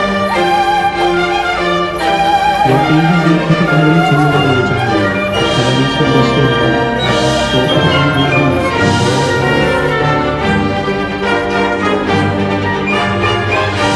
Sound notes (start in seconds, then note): 4.0 Korean; 5.3 people chattering; 8.3 boat engine humming